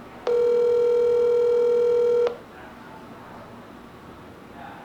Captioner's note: phone ringing